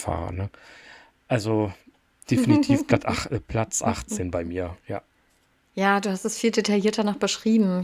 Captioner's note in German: gelächter